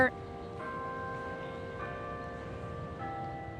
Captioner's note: bells chiming